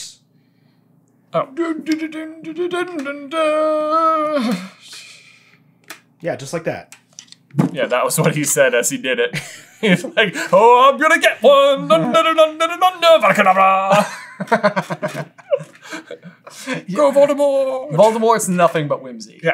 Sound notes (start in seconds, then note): 13.9 laughter